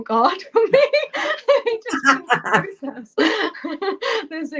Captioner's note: laughter